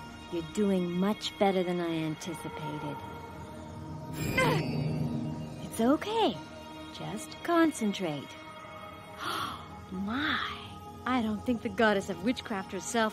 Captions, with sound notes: You're doing much better than I anticipated. (Gasping) It's okay. Just concentrate. (Gasping) My. I don't think the Goddess of Witchcraft herself